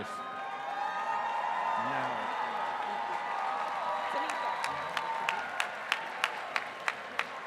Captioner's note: applause